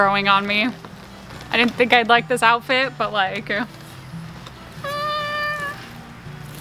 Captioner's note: squeals